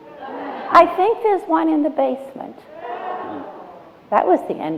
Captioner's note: laughter